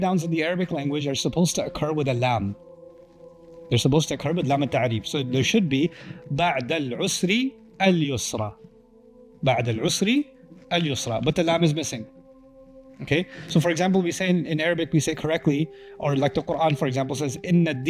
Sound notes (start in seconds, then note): 4.8 Arabic; 6.3 Arabic; 17.5 Arabic